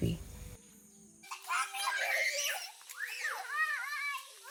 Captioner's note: kids giggle